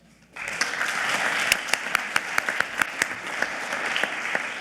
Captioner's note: audience clapping